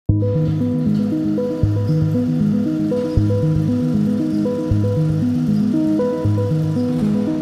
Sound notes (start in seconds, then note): 0.1 gentle music; 0.2 film whirring